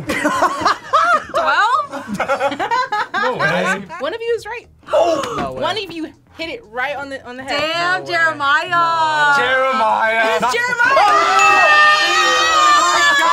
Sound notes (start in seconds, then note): 0.1 both laugh; 2.4 laughs